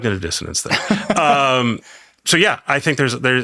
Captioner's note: laughs